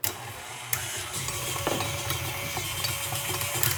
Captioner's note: mixer whirring